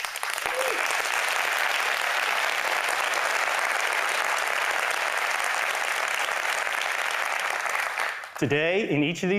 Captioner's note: applause